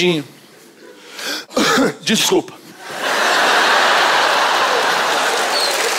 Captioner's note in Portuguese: tosse